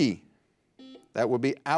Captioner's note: buzzer buzzes